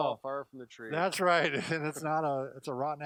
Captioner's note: laughs